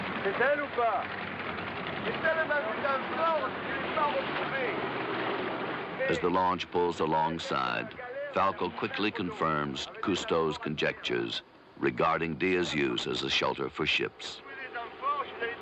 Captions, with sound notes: [SPEAKING FRENCH] [DIVERS RESPOND IN FRENCH] As the launch pulls alongside, Falco quickly confirms Cousteau's conjectures regarding Dia's use as a shelter for ships.